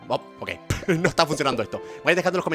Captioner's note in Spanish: ríe